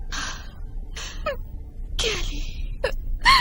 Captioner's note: whispering